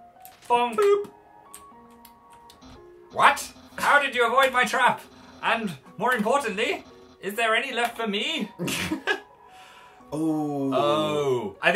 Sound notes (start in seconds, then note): 8.7 snorts